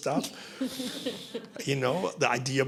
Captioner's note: laughter